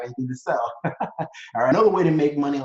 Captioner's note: laughs